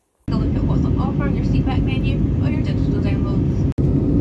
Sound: flight attendant speaking

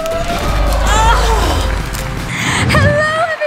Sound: audience groaning; audience applauding

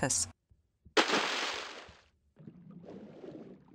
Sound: splash

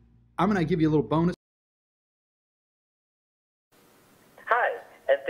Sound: audio cuts out

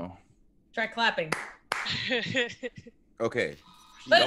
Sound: laugh

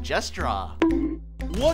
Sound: bonk

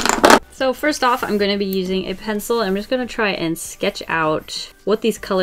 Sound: none

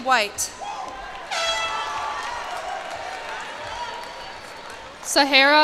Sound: cheers and applause

